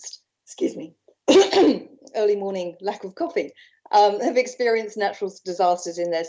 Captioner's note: clears throat